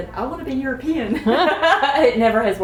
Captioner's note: laughter